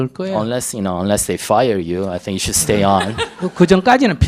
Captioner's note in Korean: 질문자 웃음